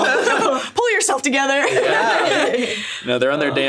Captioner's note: laughs